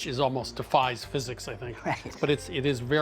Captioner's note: chuckling